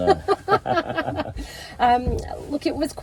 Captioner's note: laughing